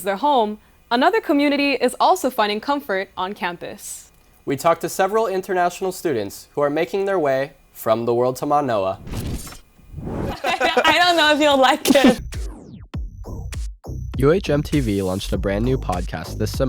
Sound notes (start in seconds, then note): 10.3 laughter